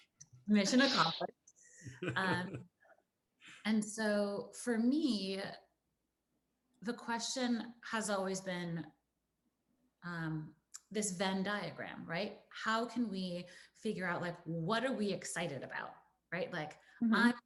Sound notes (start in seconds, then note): 1.8 laughter